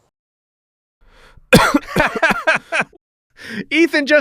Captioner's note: laughter